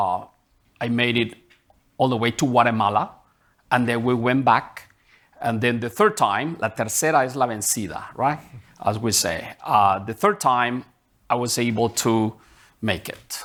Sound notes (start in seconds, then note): 6.7 speaking in Spanish